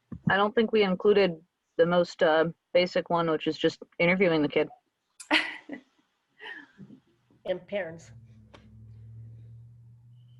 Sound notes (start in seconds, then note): 5.2 laughter